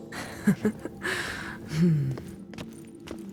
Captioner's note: laughs softly